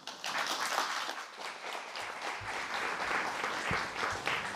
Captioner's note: applause